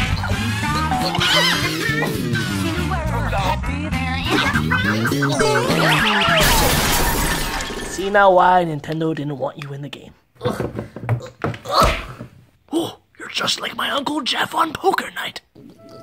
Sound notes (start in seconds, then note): 5.6 crashes